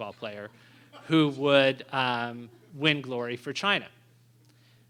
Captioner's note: laughter